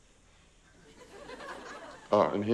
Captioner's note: laughter